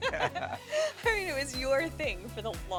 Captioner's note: laughing